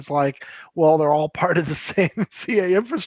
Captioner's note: chuckles